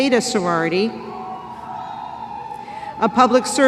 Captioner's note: cheering